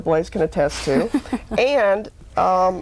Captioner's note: laughter